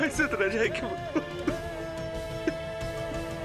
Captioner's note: sobs